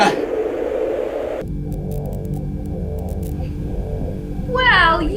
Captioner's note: sparking